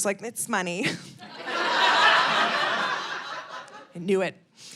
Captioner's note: audience laughing